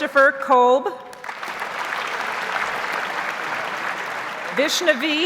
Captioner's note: audience applauds